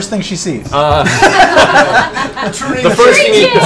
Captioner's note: laughs; laughter